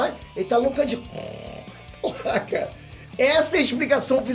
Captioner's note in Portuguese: Roncando